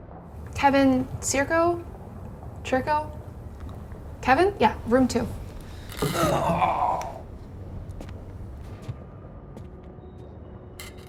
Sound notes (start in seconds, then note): 5.9 Kevin groans